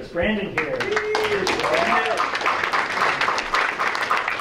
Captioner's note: applause